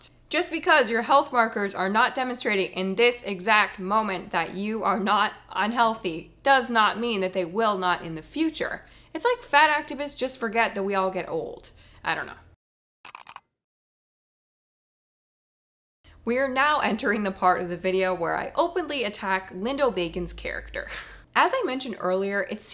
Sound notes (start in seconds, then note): 13.0 keyboard clicking; 20.8 chuckling